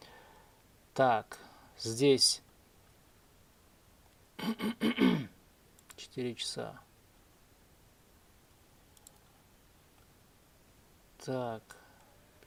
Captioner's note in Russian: откашливается; кашель